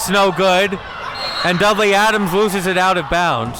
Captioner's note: whistle blows